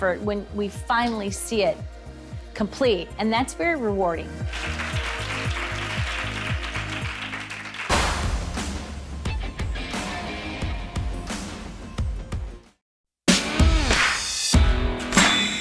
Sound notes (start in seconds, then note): 4.4 clapping; 4.7 bright ambient music; 8.0 upbeat rock music